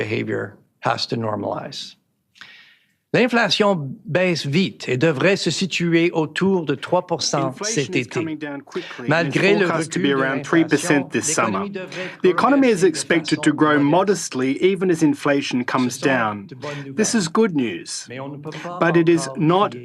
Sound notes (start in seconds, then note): 7.3 speaking French